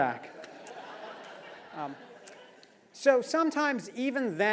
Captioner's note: laugh